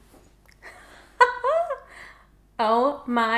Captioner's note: laughs